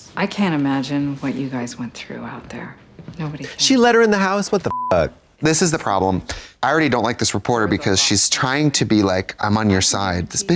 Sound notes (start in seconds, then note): 4.7 beep